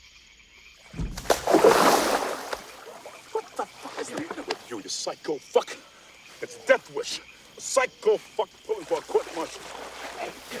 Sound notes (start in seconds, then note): 0.9 loud splashing